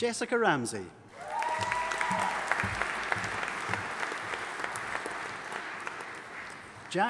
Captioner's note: audience applauding and cheering